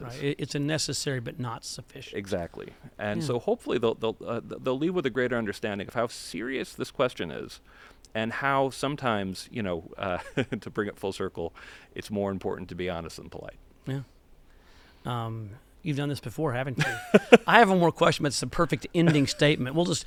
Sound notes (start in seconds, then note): 16.8 laughter